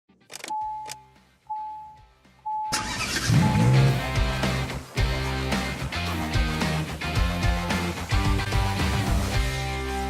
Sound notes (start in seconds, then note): 0.0 car dinging; 2.7 engine starting; 3.1 upbeat rock music